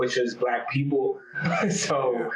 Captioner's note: laughs